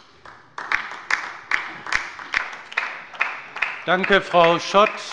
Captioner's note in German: Beifall bei der LINKEN